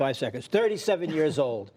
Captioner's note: laughter